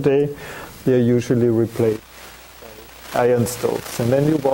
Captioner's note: audio static